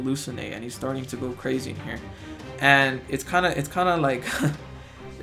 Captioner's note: chuckles